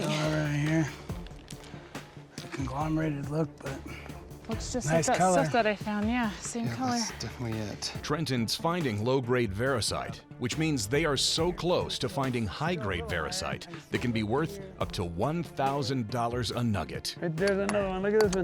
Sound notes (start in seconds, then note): 1.9 muttering